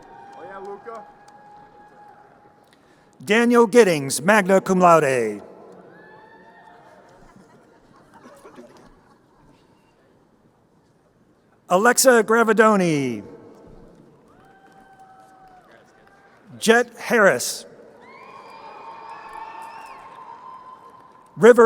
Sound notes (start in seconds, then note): 5.6 crowd cheering; 14.2 crowd cheering; 18.3 crowd cheering